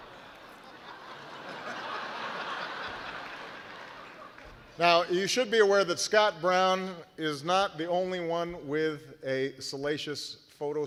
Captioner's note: laughter